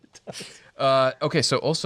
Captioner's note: laughs